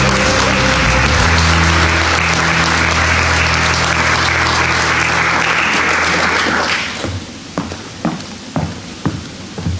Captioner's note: applause